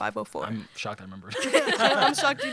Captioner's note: laughter